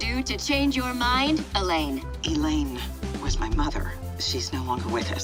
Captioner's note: woman on phone